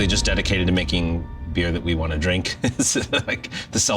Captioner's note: chuckle